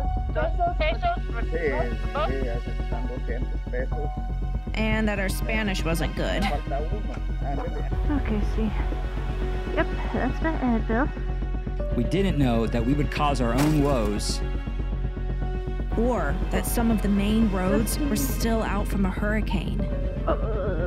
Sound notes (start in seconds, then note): 0.2 suspenseful Music Continues; 13.4 crash Noise